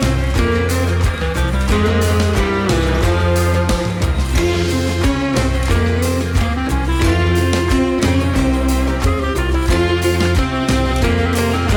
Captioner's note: applause